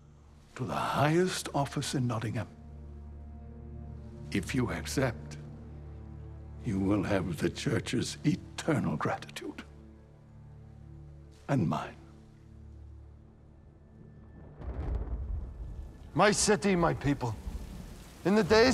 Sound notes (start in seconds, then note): 14.2 thunder rumbling